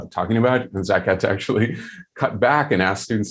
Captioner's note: chuckling